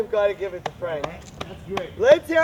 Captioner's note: clapping